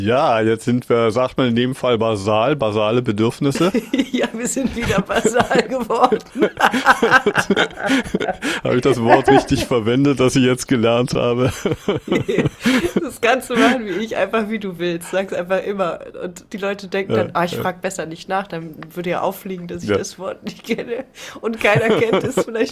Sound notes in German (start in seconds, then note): 3.5 gelächter; 11.8 gelächter; 21.6 gelächter